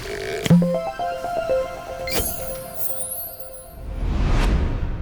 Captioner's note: playful chime